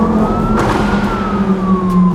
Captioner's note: pop and bang